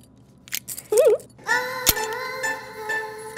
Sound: giggling

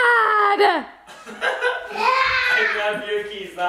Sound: laughter

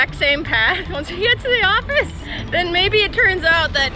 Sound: laughs

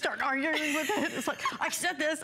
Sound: laughter

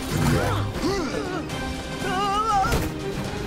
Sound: grunting

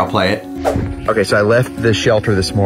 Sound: screen swooshes

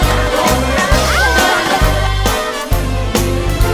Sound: aargh!

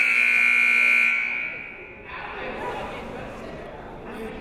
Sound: buzzer goes off

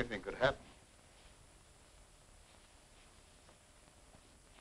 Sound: rain pattering

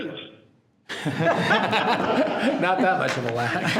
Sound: people laughing

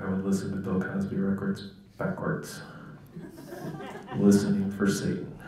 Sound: laughter

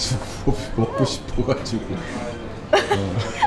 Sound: laughing

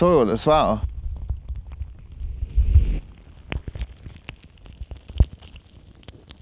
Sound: soil crackling

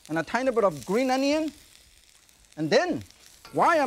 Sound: onion sizzling

